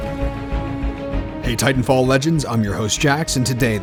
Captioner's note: heroic music; voiceover